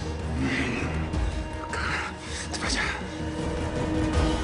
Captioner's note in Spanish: Jadeos de él